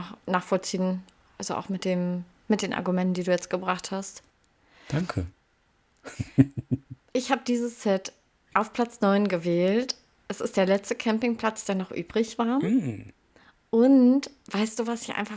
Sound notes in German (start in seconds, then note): 6.0 gelächter